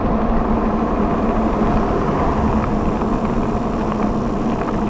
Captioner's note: electric motor whirs